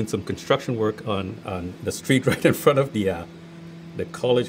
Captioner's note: chuckles